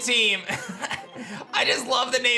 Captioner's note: chuckles